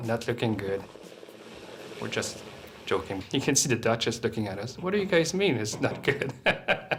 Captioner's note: laughs